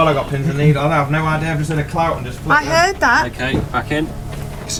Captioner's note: crew anxiously talk amoungst themselves